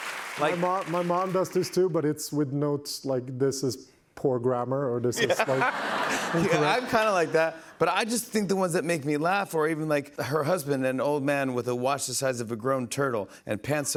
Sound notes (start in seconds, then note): 0.0 applause; 5.1 laughter